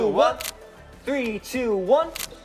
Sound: camera clicking; camera clicking

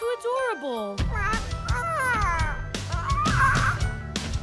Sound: cooing

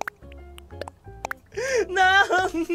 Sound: breathes

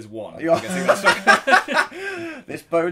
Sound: laughs

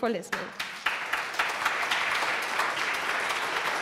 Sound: applause

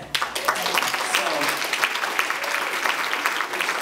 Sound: applause

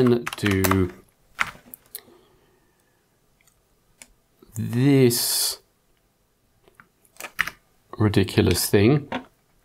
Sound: blank Audio

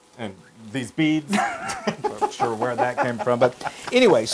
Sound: laugh

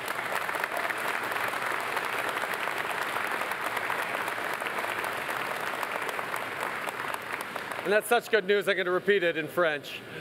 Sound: applause

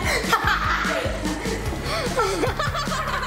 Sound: laughing

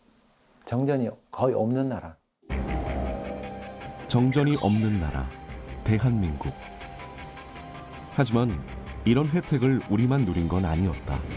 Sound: voiceover

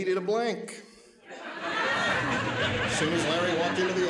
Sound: laughing

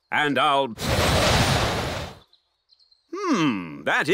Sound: blows

